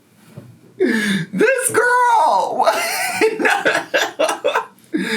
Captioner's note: laughs